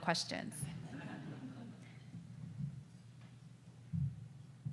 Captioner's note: audience laughs